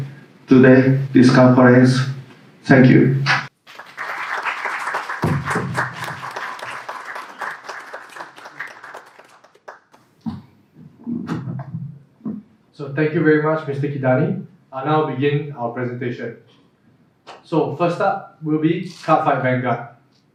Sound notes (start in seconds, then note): 3.6 clapping